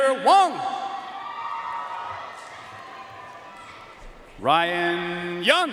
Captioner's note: audience cheering and applauding